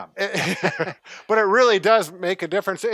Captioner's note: laughs